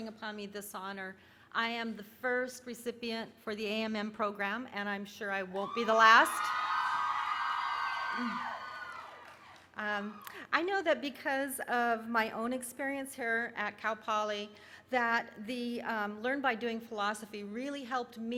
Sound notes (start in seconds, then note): 7.2 cheering